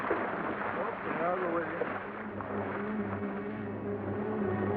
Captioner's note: water splashes; ominous music; dramatic music